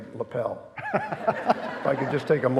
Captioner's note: laughing